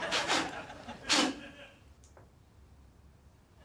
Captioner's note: blows